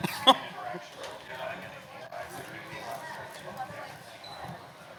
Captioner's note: laughter; side conersations